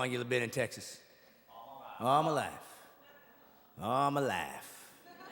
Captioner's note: audience laughing